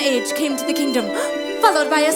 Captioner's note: gasp